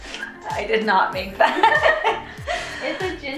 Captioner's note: laughing